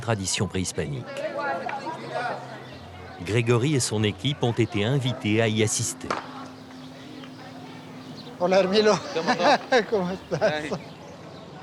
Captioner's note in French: rires